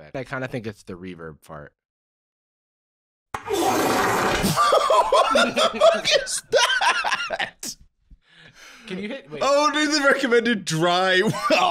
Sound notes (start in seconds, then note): 4.4 laughing